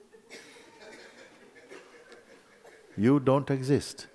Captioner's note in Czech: Posluchači se smějí